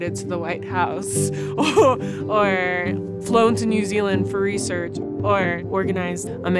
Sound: laughter

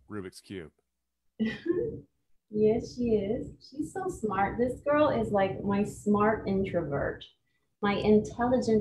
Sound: chuckles

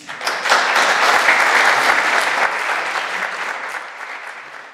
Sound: audience applauds

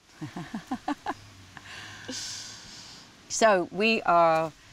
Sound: laughs

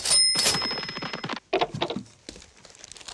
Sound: till rings

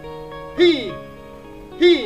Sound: exhales

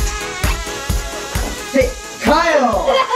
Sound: door creaking

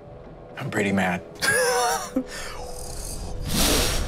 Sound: laughs

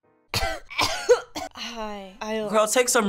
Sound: coughs

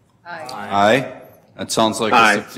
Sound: multiple voices

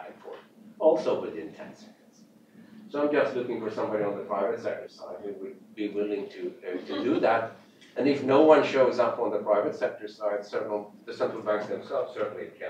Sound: off mic

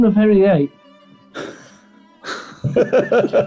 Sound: sniggering; laughter

